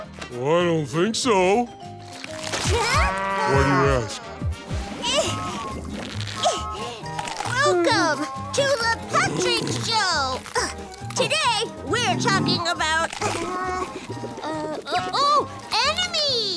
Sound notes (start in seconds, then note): 4.6 grunting; 10.0 groaning